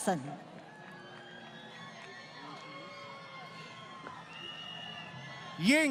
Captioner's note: crowd Cheering